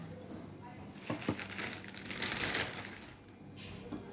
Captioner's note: packet rustling